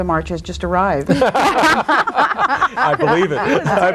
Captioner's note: panel laughs